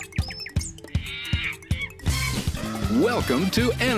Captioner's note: animal noises